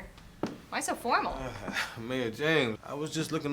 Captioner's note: chuckles